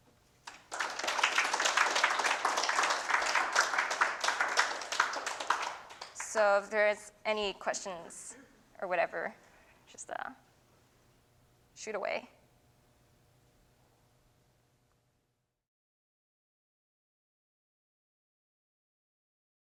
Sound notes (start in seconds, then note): 5.2 applause